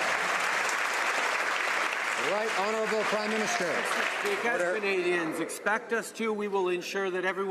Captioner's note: some Applause